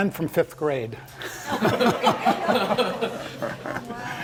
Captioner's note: laugh